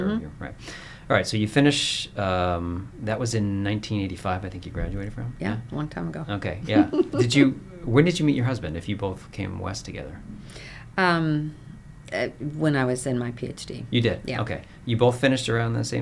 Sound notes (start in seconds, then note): 6.7 laughter